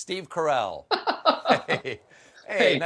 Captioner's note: laughter